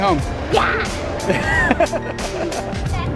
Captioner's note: laughs